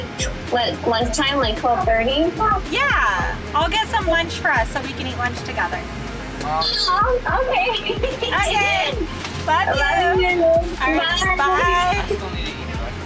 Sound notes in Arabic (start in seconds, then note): 6.9 امرأة على الهاتف; 7.7 الضحك